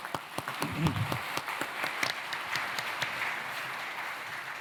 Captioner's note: applause